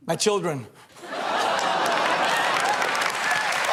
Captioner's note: laughter